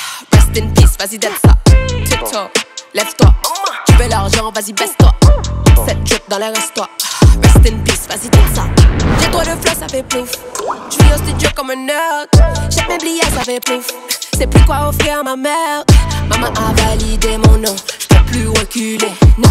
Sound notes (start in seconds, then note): 10.3 poof